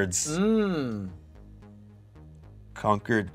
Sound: awkward pause

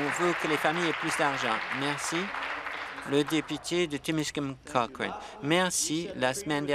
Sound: applause

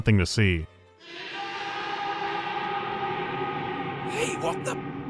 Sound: echoing scream of pain

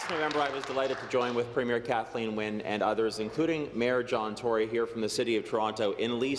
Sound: applause

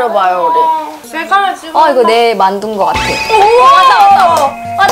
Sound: the bell is ringing

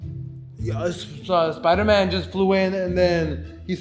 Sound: stammers

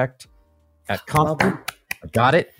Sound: clapping

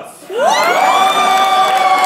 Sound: audience cheers wildly

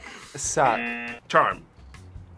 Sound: buzzer

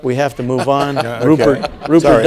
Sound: laugh

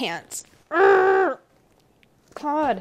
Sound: groaning

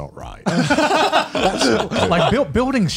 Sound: laughs

